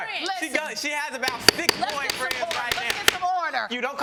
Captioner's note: pounding gavel